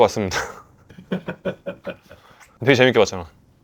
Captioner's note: laughs